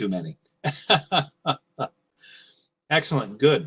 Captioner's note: laughing